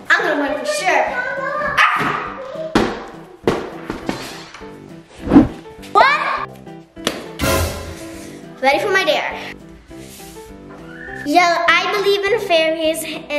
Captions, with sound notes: I'm gonna win for sure. Arf! (giant cube hits floor) One! (suspenseful music) Ready for my dare. Yell "I believe in fairies"